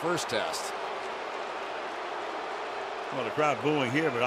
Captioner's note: booing